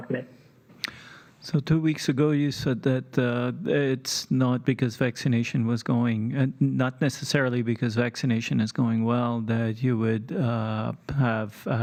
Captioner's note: speaking French